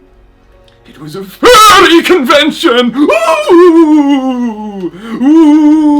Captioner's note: imitates ghost